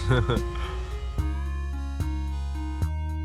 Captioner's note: laughing; gentle upbeat music